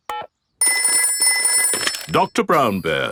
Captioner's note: telephone ringing; dialing